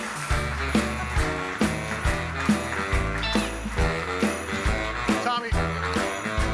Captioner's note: audience applauding; bright music